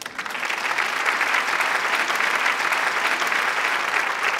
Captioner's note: applause